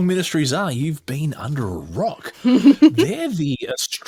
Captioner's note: laughs